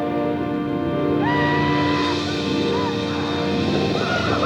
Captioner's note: Apaches howl